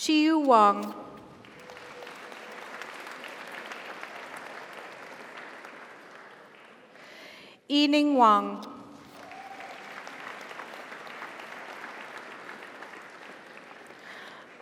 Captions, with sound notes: Chiyu Wang. (audience applauds) (audience cheers) Yining Wang. (audience applauds) (audience cheers)